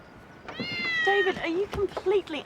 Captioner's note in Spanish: gato maullando